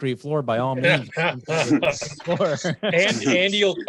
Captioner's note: light laughter